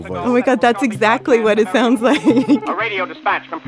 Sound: laughs

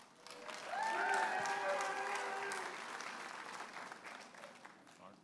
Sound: audience applauding and cheering

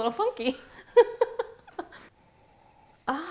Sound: laughing

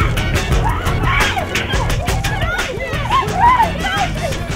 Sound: frantic screaming

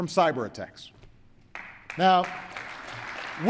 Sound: applause

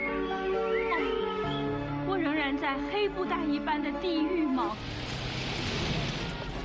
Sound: speaking foreign language

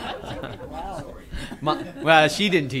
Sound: laughter

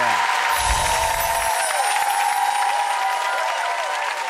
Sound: audience cheering

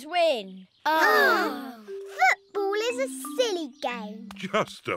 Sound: all sigh

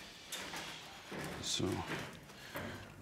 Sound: quietly

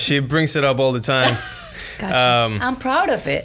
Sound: laughs

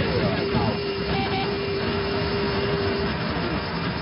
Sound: angle Of Attack Warning Sound; altimeter Setting Sound

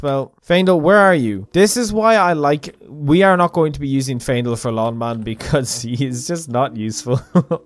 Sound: irritated chuckle

